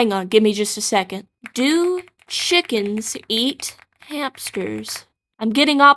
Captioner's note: distant Typing